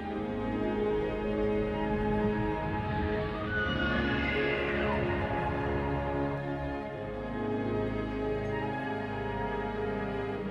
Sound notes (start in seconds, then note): 2.9 liopleurodon Sounds